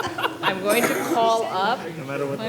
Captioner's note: laughter